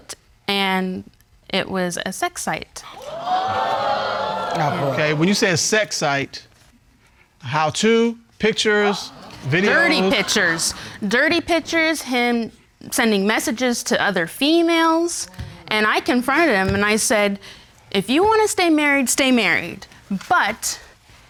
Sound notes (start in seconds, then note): 2.8 audience exclaiming